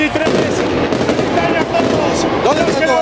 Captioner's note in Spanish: Fuegos artificiales